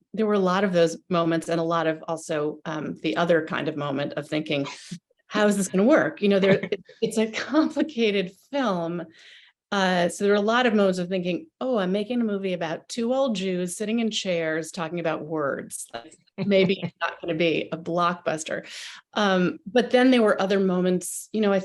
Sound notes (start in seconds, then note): 5.2 gasps